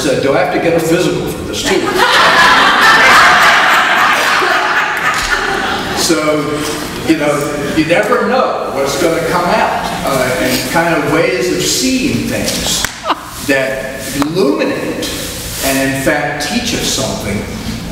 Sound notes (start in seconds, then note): 1.6 audience laughs